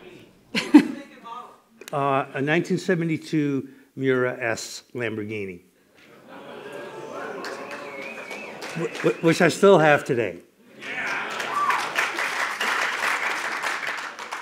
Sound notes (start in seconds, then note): 3.8 scattered applause; 8.8 cheers and applause